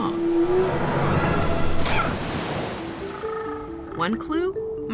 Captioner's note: water splashes